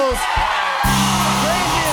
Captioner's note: cheers and applause